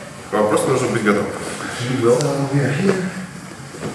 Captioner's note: speaking in a foreign language